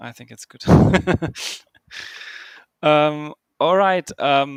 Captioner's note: laughs